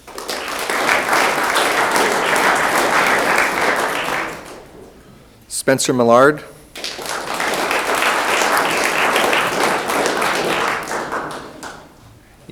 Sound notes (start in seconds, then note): 0.0 room applauds